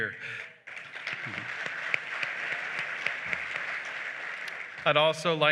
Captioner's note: applause